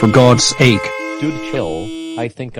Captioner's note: car horns honking